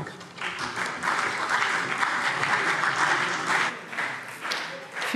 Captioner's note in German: Beifall CDU und BÜNDNIS 90/DIE GRÜNEN